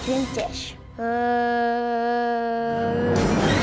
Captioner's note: mummy noises; intense music